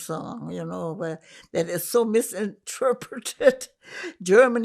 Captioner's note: laughing